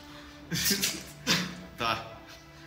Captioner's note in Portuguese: Risadas